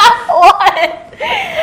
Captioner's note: laughs